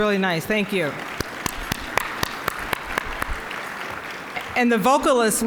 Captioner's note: applause